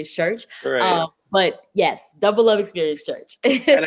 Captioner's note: laughs